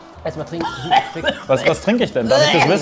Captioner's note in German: Husten